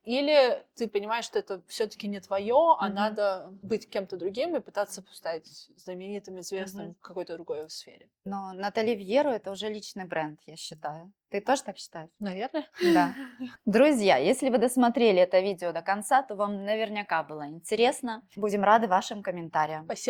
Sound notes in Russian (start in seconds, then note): 14.1 смех